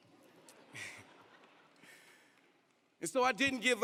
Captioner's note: audience laughing